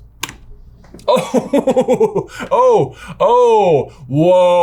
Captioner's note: laughing